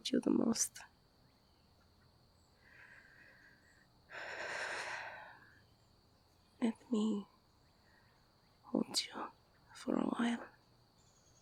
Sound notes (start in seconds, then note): 0.9 sighs